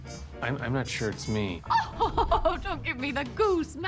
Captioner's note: laughs